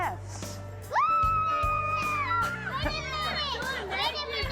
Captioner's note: kids cheering